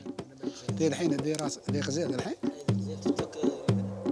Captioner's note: Arabic spoken audio